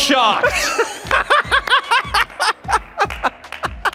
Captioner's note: Bobby laughing